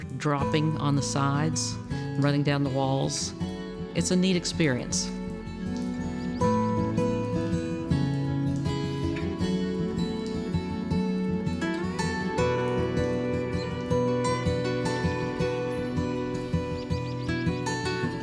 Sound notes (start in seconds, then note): 3.3 water dripping; 6.1 birds chirping